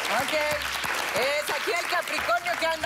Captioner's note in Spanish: Aplausos